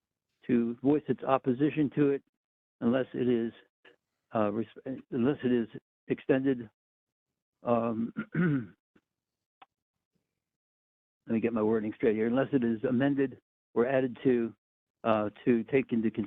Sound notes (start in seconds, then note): 8.0 cough